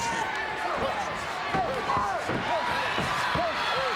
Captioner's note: crowd cheering